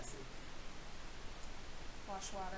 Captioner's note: man speaking